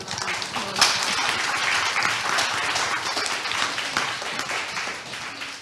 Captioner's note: audience applauding